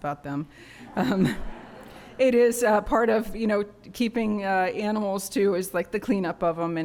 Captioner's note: laughter